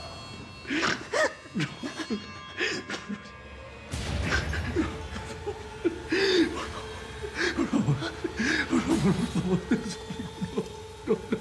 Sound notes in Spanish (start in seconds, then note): 1.8 ambos sollozan